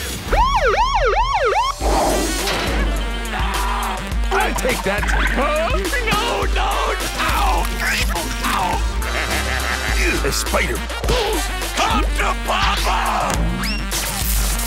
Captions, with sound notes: [police sirens sounding] [screaming] I'll take that. Huh? No! No! Ow! Ow! [laughing] Ew, a spider. Come to papa!